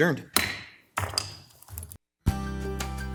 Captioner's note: gavel bangs; bright upbeat music